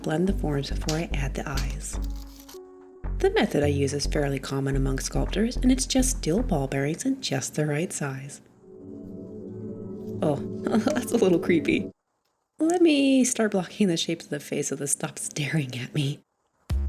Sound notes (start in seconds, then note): 8.6 eerie music rises; 10.6 whispers